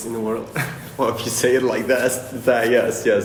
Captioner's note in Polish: śmiech